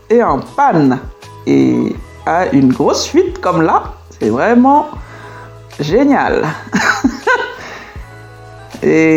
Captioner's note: laughs